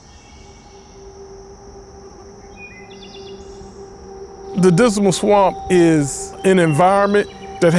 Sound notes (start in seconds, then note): 0.0 birds chirping; 2.3 mosquito buzzing